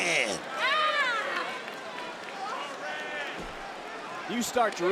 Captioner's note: Giulia screams